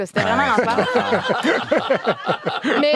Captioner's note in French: rires